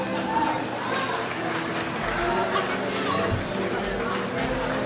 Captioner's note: crowd applauds